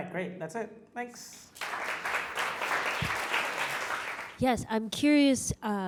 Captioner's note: audience claps